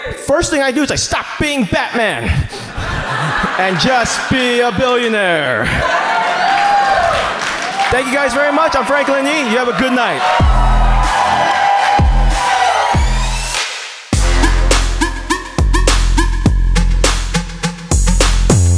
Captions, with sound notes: First thing I'd do is I'd stop being Batman and just be a billionaire! (audience cheers) Thank you guys very much. I'm Franklin Yi, you have a good night. (audience cheers) (upbeat music)